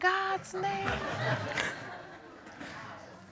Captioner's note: audience laughing